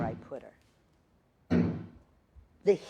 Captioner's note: banging